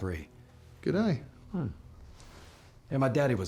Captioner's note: scottish accent